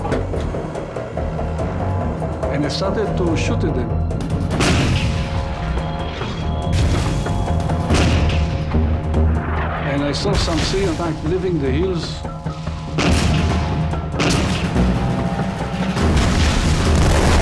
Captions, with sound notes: And I started to shoot at him. (explosions booming) And I saw something back there in the hills. (explosions booming)